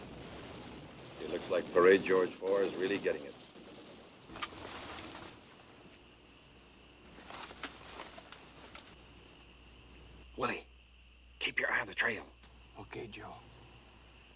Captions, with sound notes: It looks like Parade George Four is really getting it. (rustling) (whispers) Willie, keep your eye on the trail. OK, Joe.